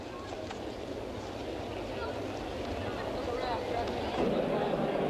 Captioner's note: crowd chattering